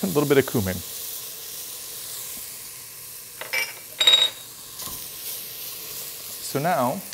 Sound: pan sizzling

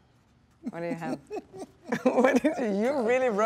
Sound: Dwayne chuckles

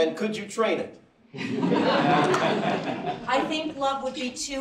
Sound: laughter

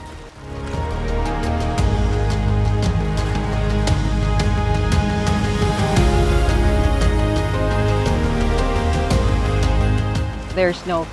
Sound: waves

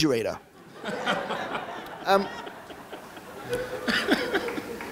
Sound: audience laughing

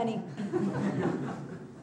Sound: students laughing

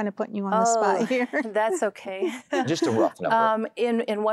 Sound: laughing

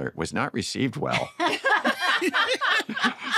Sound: laughter

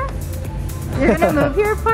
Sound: chuckles

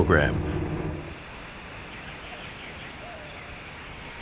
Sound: birds chirping

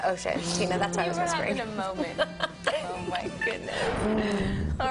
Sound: laughing

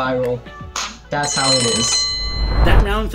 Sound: claps; bell rings

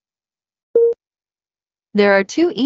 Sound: beep

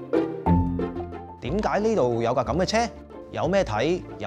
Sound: Cantonese

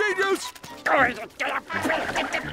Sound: groaning

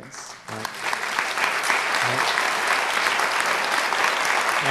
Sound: audience applauds

